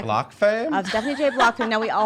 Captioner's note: laughs